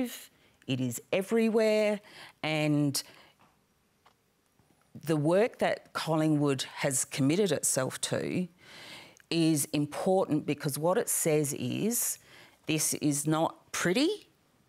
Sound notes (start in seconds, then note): none